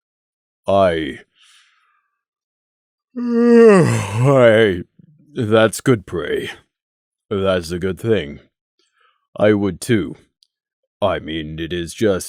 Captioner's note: yaaaawn